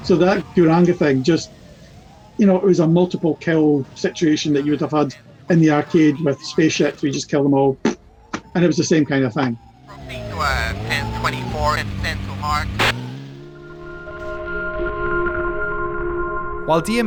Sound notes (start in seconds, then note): 10.4 radio chatter; 13.6 soft music